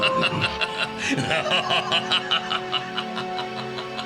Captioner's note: Kaibara’s laughter continues…